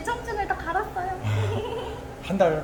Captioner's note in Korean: ㅎㅎㅎ, ㅎㅎㅎ